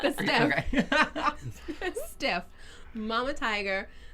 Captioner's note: laughing